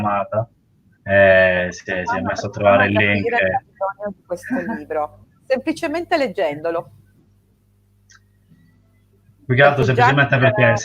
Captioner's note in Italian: risate